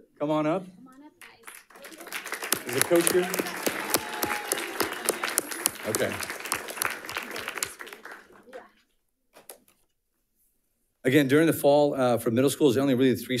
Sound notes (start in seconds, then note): 4.9 audience applauding